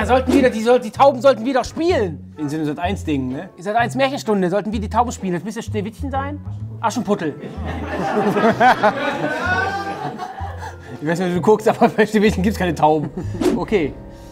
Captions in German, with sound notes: Da sollten ... Die Tauben sollten wieder spielen! So ein SAT.1-Dinge, ne? Sat.1-Märchenstunde, sollten wir die Tauben spielen. Das müsste Schneewittchen sein? Aschenputtel. (Gelächter) Ich weiß nicht, ob du guckst, bei Schneewittchen gibt's keine Tauben.